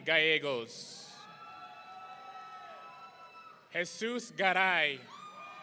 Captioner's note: audience cheering